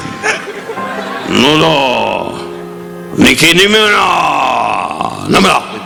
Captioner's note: Don speaking in Japanese